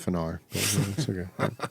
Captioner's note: laughing